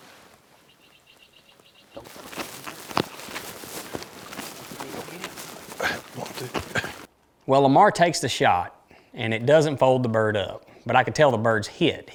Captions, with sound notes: (mic muffles) Well Lamar takes the shot and it doesn't fold the bird up but I could tell the birds hit.